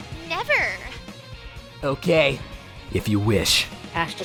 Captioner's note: sternly